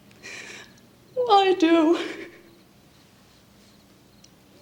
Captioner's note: sobbing